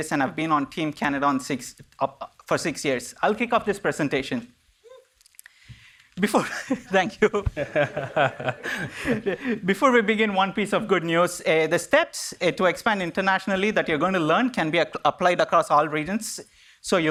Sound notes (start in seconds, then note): 6.4 chuckles; 7.2 all laughing